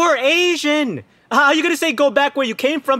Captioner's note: none